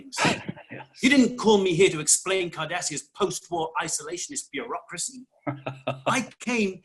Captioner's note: Garak laughs